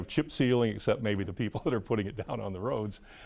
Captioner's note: laughs